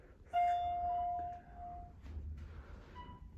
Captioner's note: elevator chime